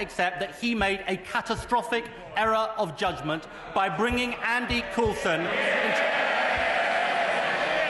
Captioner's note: cheering